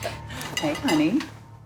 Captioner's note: laughing